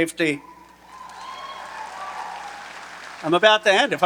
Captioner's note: audience cheering and applauding